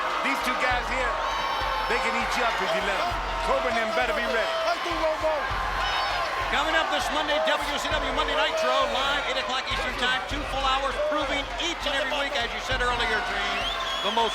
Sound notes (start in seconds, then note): 4.7 Meng shouting in foreign language